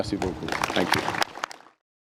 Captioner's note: applause